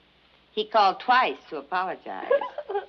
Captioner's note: both laugh